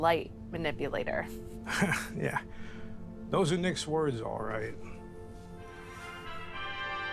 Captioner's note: Harry chuckles